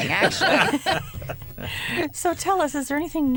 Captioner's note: laughter